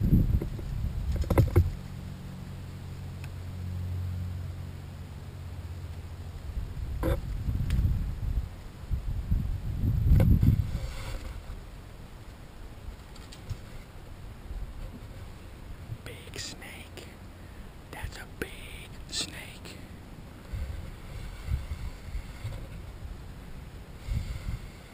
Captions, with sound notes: How am I doing guys? (Whispering in reference to the big snake he is filming) UNBELIEVABLE!